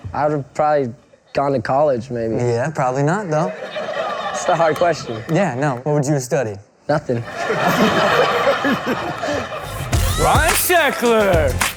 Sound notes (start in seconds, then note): 3.4 laughing; 7.2 laughing